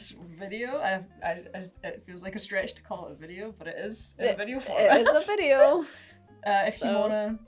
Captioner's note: laughing